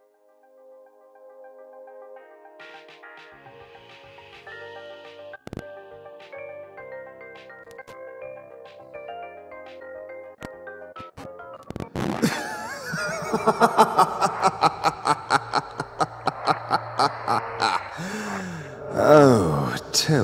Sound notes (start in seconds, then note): 12.2 laughs maniacally